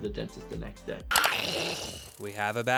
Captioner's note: Toothfairy gnarls